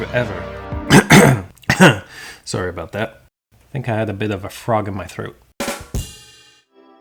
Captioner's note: cough